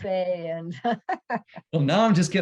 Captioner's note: laughs